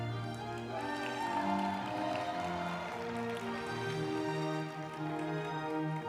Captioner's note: group applauding; uplifting music